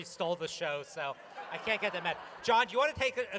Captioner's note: laughter